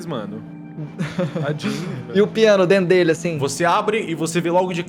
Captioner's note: laughs